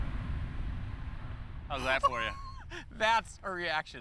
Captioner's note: laughing